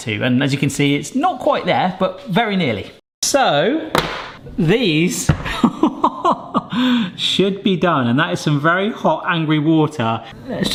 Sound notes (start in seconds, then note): 5.4 laughing